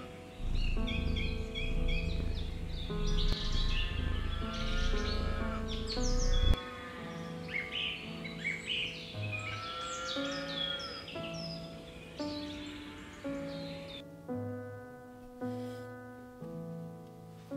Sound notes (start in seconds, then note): 0.1 cats purring; 8.6 birds chirping; 14.3 gentle piano music